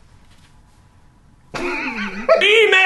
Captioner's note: laughing